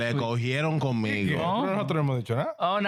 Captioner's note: speaking In Foreign Language